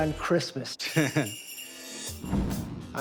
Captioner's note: chuckles